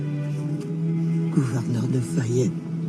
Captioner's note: non-english speech